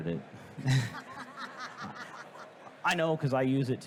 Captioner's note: host laughing